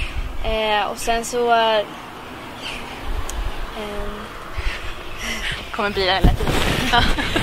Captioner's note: laughs